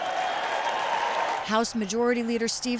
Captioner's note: cheering; applause